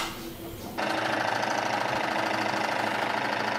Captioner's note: loud rattle